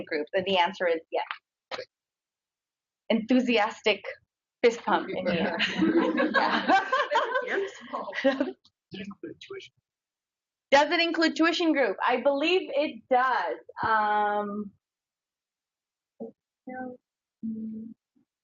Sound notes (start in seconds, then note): 5.3 audience laughs; 9.3 man speaks through warped and choppy audio